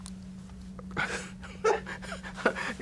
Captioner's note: laughs